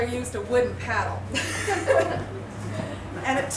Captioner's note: laughter